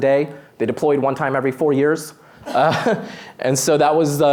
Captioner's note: laughs